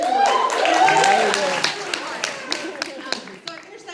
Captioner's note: audience cheers